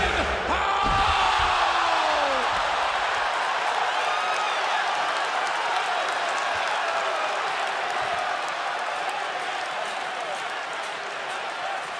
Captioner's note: crowd cheering